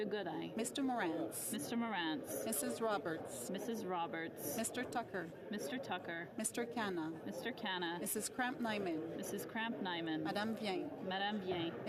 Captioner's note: calling of recorded vote